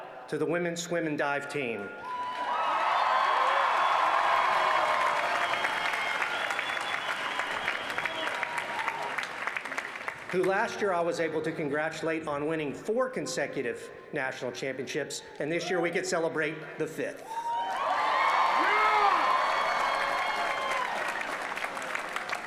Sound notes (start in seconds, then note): 13.4 applause